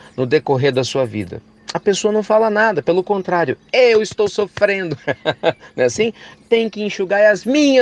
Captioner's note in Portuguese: risos